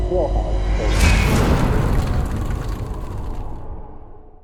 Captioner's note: impact